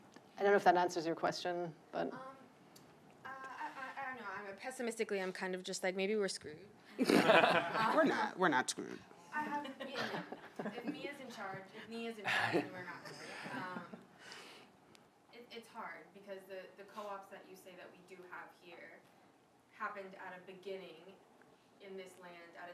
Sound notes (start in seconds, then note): 7.0 laughter